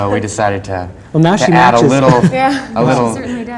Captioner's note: laughs